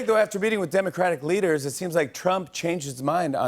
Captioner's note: none